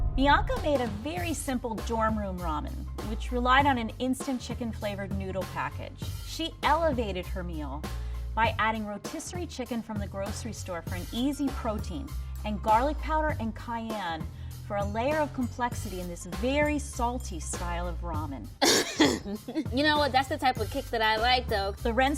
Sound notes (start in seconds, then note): 18.6 coughs; 18.6 laughs